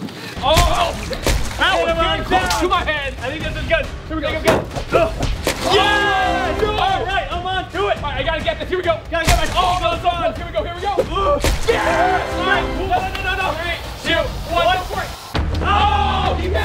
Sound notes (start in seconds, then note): 5.4 splash; 5.6 cheering; 11.6 cheering